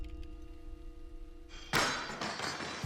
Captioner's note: clanging